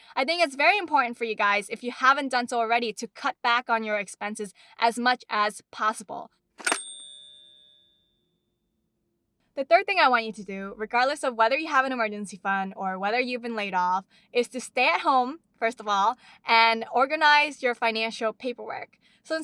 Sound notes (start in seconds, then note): 6.6 ring